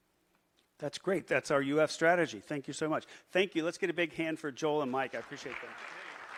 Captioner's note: applause